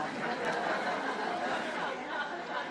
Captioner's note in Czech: smích